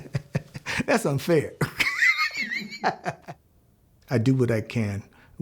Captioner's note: laughs